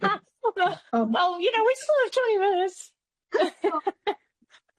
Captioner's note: laughs